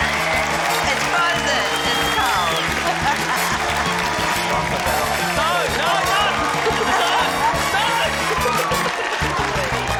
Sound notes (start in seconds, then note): 2.5 urzila laughs; 6.5 laughter